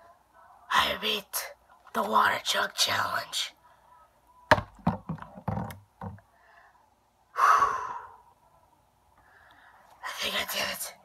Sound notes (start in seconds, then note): 7.3 sigh